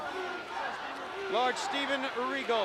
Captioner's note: crowd chatter